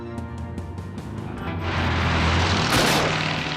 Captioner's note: engine roaring